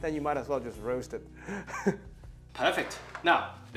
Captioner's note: chuckles